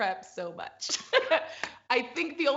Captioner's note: laughs